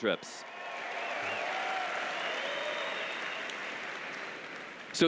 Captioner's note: cheers